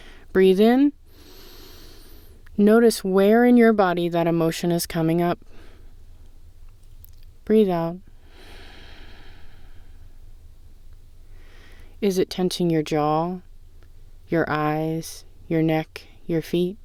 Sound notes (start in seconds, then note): 1.1 inhale; 8.2 exhale